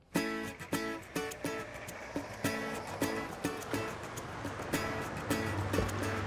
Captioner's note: upbeat music; engine rumbling